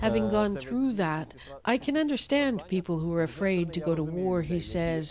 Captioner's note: speaking alternate language